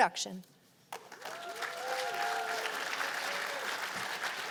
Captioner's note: cheers and applause